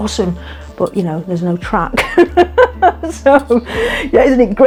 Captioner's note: laughs